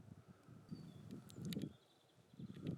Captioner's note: wind